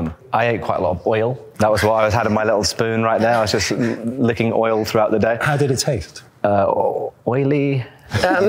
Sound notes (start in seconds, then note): 3.1 laughs